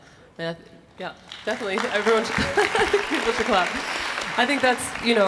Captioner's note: laughs